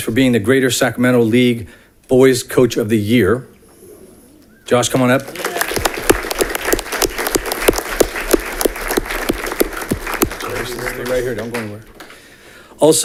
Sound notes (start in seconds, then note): 4.9 audience clapping